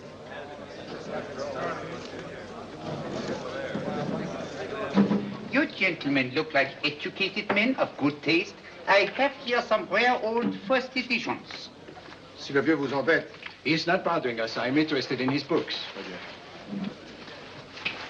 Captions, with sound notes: - You gentlemen look like educated men of good taste. I have here some rare old first editions. (waiter speaks in French) - He's not bothering us. I'm interested in his books.